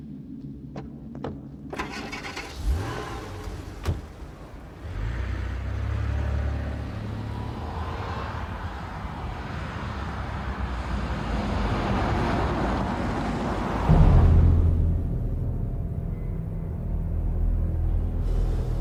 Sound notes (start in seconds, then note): 1.7 engine revving; 2.0 door clicking; 14.3 tense music